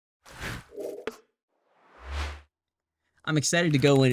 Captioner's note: whooshing noise